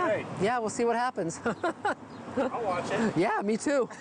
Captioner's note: laughing